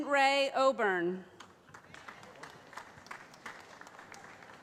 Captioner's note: applause